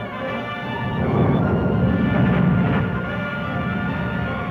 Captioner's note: volcano rumbling